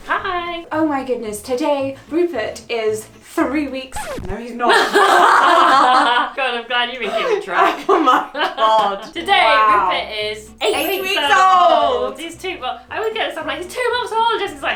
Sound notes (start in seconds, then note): 3.9 record scratch; 4.7 both laughing; 6.9 laughs